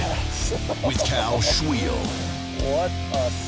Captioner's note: laughs; voiceover